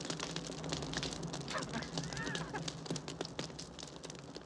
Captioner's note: locke laughing